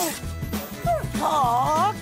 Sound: Lily whines

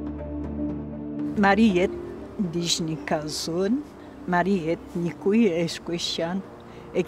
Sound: Atikamekw language

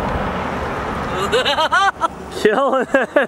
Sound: laughs

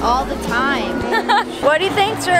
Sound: laughing

